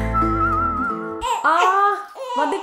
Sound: baby cooing

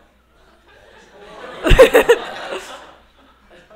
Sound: laughter

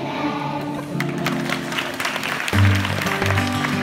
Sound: applause; calm music

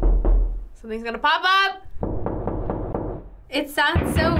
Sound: knocking

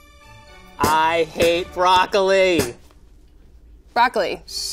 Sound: banging

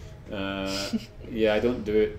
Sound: chuckles

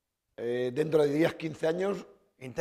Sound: speaking spanish

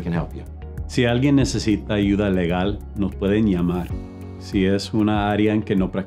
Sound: speaks in foreign language

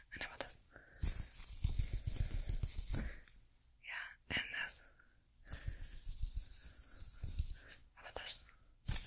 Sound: brushing Continues

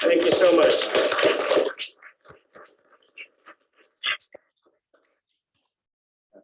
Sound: applause

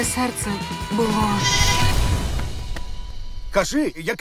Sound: music fades; bleats

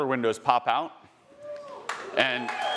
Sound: attendee cheering

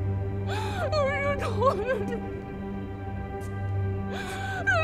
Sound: muffled begging

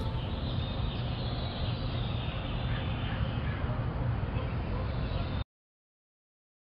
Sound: birds chirping

